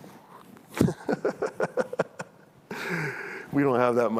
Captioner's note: chuckles